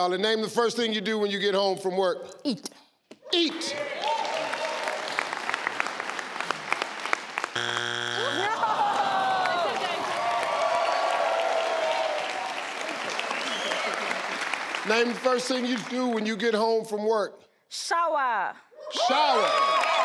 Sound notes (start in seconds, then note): 4.2 audience claps; 7.5 buzzer buzzing; 8.2 audience groans; 10.6 audience claps